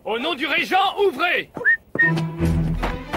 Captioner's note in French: sifflement